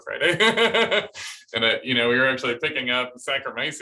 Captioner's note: laughter